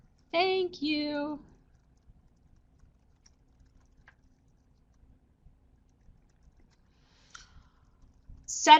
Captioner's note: no sound - waiting for questions